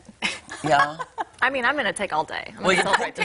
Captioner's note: laughter